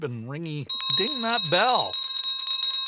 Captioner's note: bell ringing